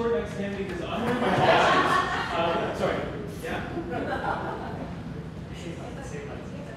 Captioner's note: laughter